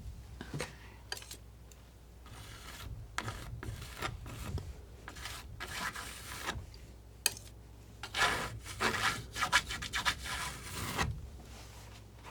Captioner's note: scratching